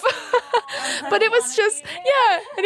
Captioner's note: laughing